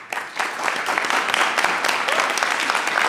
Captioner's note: applause